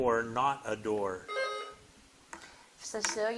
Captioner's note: bell dinging